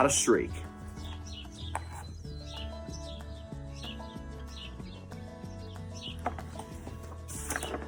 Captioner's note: birds chirp; upbeat music